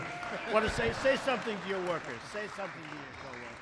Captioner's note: applause